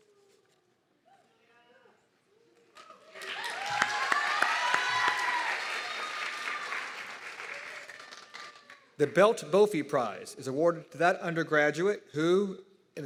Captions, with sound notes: (audience clapping and cheering) The Belt-Brophy Prize is awarded to that undergraduate who,